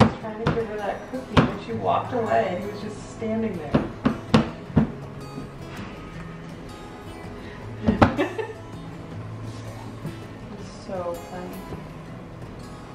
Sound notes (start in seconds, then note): 3.7 banging noise; 7.8 laughs